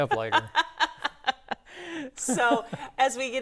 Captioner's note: laughing